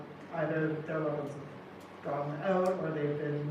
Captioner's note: none